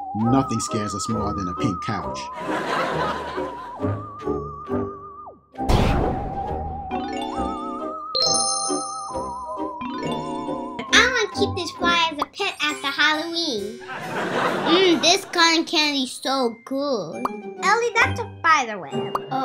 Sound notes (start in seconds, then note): 2.3 laughter; 4.7 magic noises; 13.8 laughter